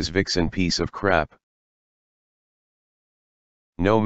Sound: silence

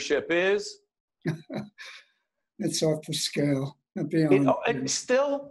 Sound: laughing

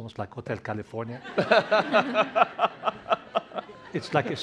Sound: laughter

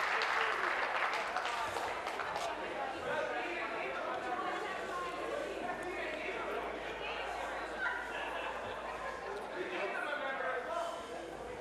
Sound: applause

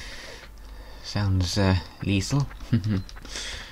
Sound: snigger

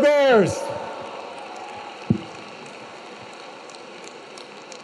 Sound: audience clapping

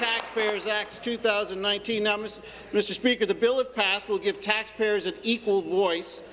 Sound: applause

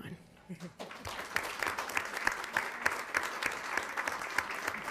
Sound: attendants clapping

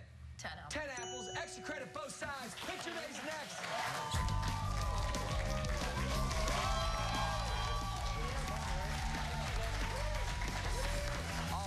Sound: cheers and applause

